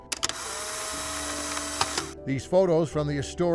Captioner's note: camera snapping